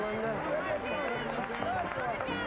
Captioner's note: overlapping chatter